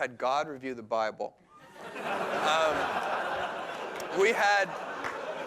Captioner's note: laughter